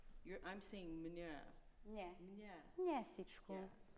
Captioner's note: speaking in a foreign language